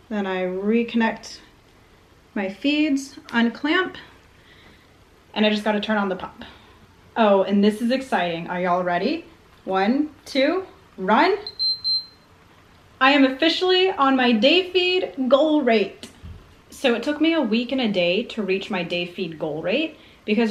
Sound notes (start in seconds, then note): 11.4 beeping